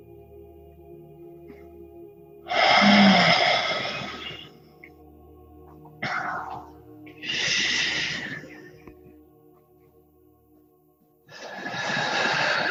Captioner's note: breathing changes